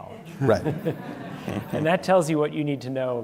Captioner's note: laughter